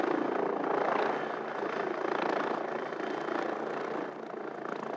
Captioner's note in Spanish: Ruido de helicóptero